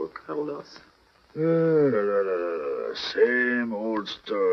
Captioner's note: sigh